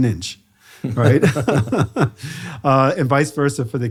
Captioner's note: both laughing